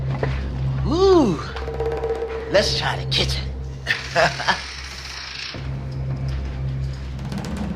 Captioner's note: chuckles